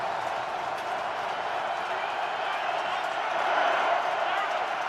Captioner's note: crowd cheering